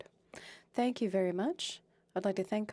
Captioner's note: speaking French